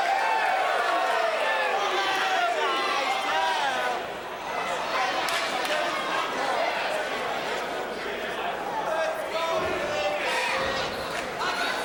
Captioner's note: crowd chatter